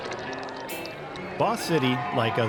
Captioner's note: liquid splashing